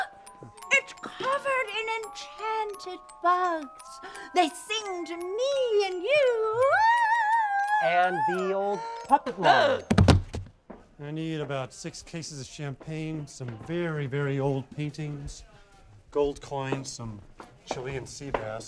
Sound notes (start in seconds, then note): 9.9 thump